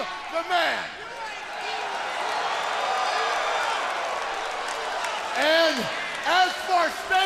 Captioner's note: crowd cheering